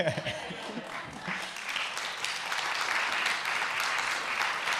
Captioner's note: audience applauding